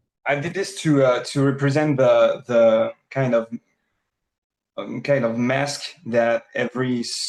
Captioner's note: none